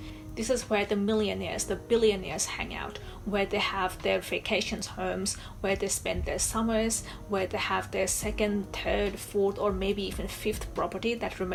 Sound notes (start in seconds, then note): none